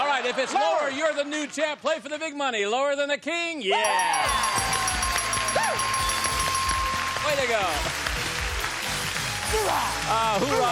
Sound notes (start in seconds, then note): 3.8 dinging